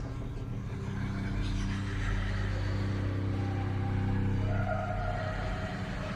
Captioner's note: eerie music; voices whispering and wailing